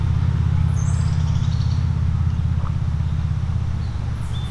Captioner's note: birds chirping